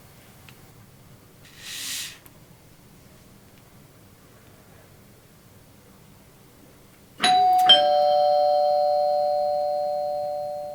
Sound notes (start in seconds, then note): 1.5 spraying water; 7.2 doorbell ringing